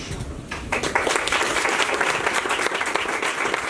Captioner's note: applause